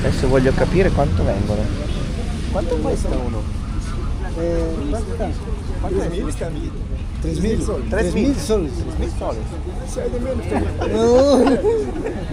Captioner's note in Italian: risate